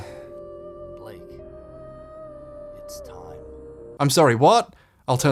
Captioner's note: man speaking absurdly quietly